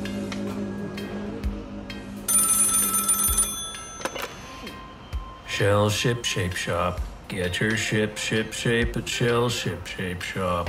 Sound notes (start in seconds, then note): 2.2 telephone; 4.7 wearily